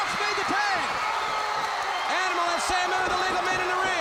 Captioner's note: crowd cheering